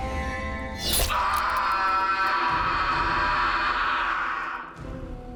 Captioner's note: agonizing scream